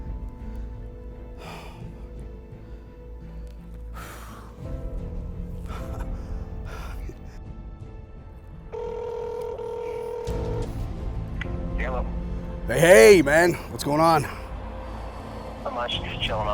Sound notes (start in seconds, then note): 1.3 breathing heavily; 3.7 breathing deeply; 6.6 chuckles; 8.7 phone ringing